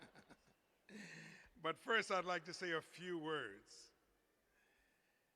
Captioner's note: laughter